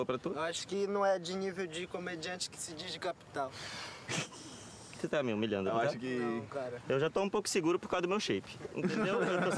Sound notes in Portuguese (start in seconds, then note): 3.5 expira; 8.8 todos rindo